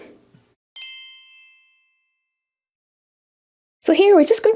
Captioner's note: bells chiming